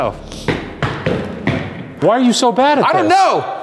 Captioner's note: stomping